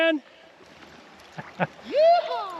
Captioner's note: chuckling